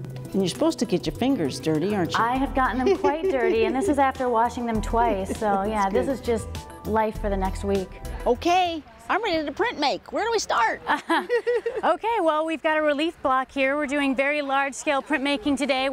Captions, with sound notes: - You're supposed to get your fingers dirty, aren't you? - I have gotten them quite dirty. (woman laughs) and this is after washing them twice, so yeah. This is just life for the next week. - Okay, I'm ready to print make. Where do we start (laughs)? - (laughs) Okay, well we've got a relief block here. We're doing very large scale printmaking today